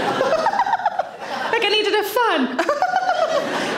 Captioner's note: giggling